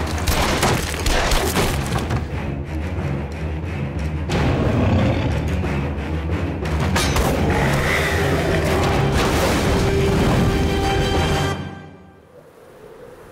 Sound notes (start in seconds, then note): 0.2 gun shots